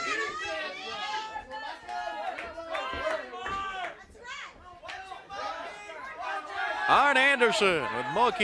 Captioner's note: crowd chatter